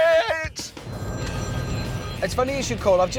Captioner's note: phone ringing